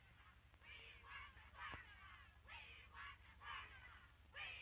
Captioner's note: chanting continues